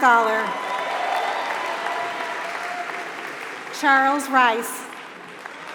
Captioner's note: applause